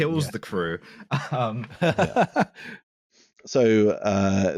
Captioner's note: laughing